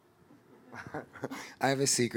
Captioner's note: audience laughing